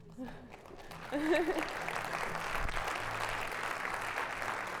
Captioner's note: audience applauds